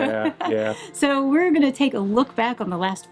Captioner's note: laughs